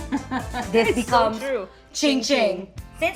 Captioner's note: laughs